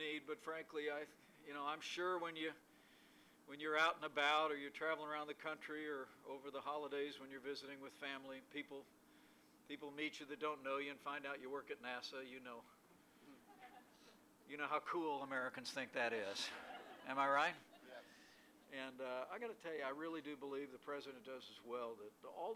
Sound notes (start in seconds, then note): 16.4 laughter